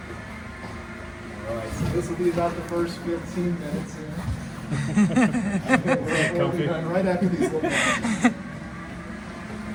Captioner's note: laughs